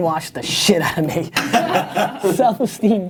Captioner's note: people laughing